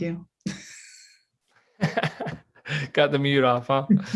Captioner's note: laughs